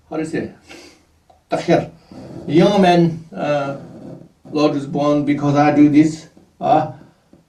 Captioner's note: tibetan